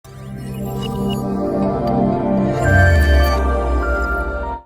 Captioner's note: electronic sounds